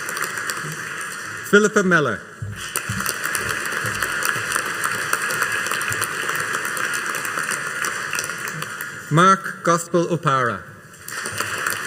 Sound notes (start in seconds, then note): 2.5 audience applauding; 11.0 audience applauding